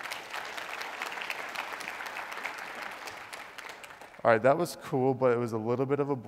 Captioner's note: applause